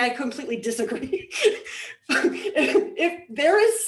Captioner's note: laughs